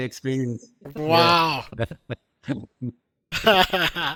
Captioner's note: laughing